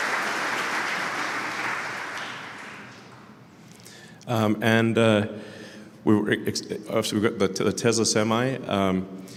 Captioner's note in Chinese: Applause; 鼓掌